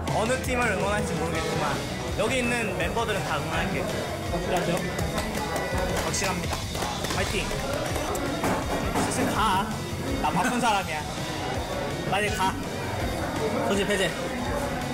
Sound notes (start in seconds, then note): 4.5 clap